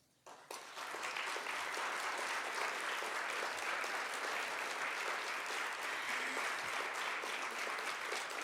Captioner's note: applause